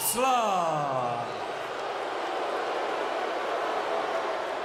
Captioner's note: crowd booing